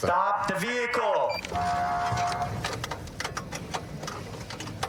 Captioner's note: horn blaring